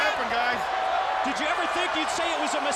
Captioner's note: crowd cheering